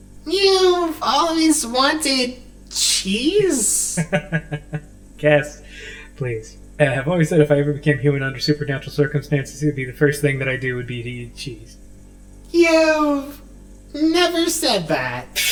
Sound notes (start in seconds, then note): 3.8 Ace laughs